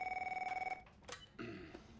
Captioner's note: telephone rings; clears throat